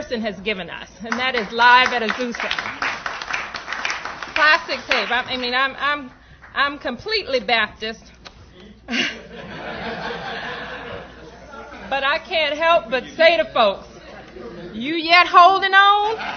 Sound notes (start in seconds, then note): 1.1 applause; 8.8 laughter; 16.0 laughter